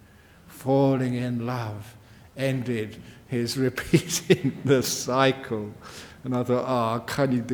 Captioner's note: laughs